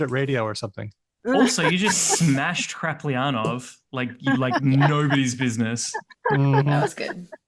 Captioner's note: laughing